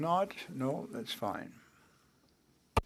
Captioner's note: speaking french